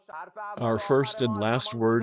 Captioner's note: through translator